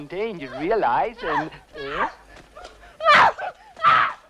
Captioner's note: girl screaming